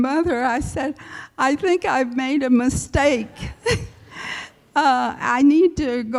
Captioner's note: laughs